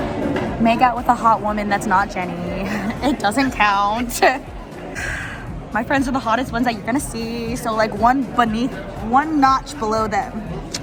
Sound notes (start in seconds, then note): 4.9 sigh